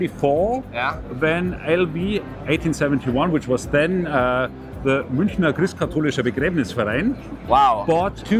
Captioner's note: speaking german